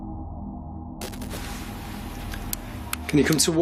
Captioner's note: static